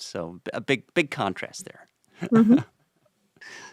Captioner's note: chuckles